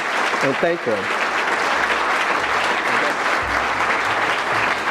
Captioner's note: audience clapping